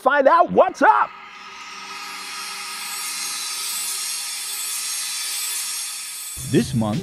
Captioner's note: sound Effects